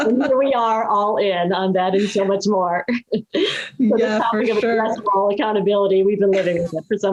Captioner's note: laugh